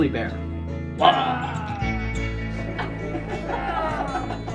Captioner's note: growling; kids laughing